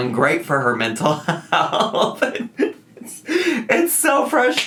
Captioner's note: laughs